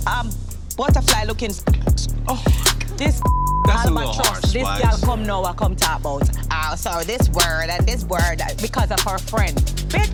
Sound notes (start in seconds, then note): 3.2 beep; 6.2 speaking in patois